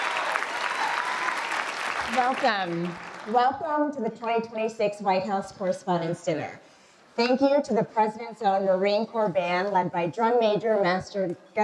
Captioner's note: applause